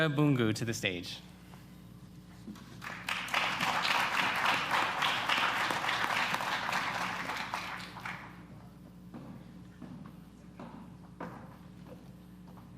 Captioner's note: applause